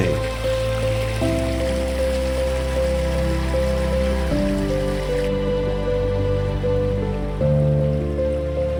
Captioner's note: sound of water